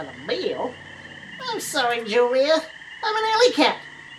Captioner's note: under breath; normal voice